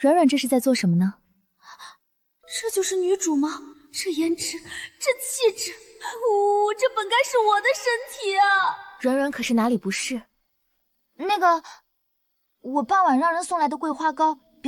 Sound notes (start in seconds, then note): 5.8 sob sob